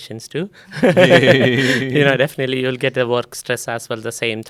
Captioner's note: laughs